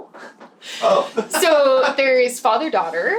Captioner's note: laughs